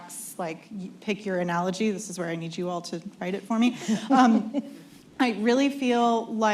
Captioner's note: laughter